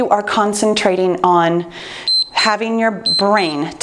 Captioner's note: timer beeps